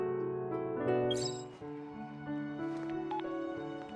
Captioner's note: phone Call